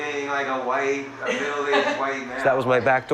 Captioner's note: women laugh